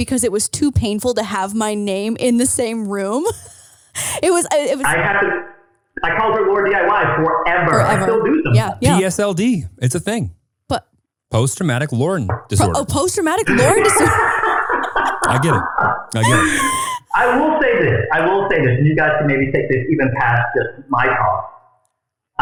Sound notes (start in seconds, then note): 14.1 laughing